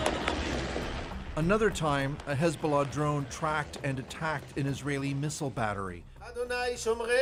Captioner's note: shots